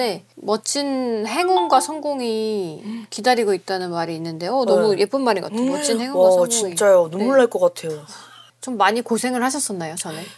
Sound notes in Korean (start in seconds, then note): 6.9 훌쩍